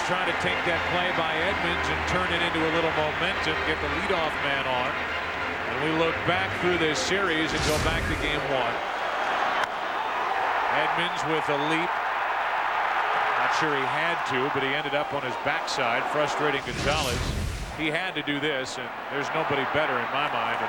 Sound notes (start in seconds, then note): 3.6 cheers and applause